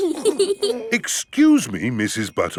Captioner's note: both giggling